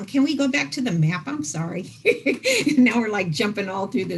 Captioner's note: laughs